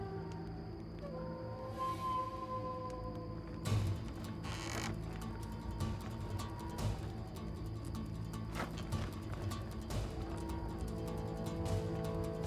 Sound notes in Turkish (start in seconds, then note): 4.4 Kapı gıcırtısı sesi; 4.4 Kapı açılma sesi; 5.5 Müzik - Gerilim